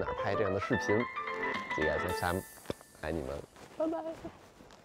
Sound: speaking in foreign language

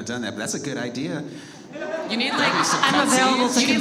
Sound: audience laughs

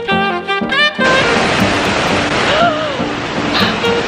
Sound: water splashing

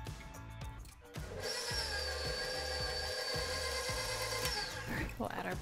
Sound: mixer whirring

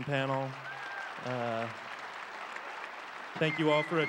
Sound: crowd applauds

